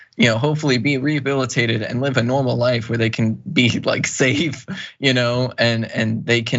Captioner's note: laugh